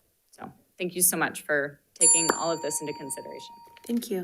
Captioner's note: bell dinging